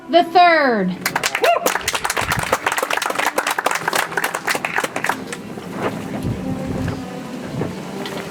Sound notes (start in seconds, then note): 1.0 audience applauds; 5.2 soft music